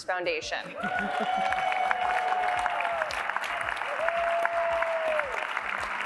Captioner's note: applause